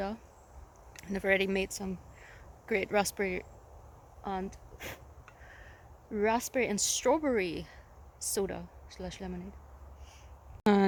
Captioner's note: blows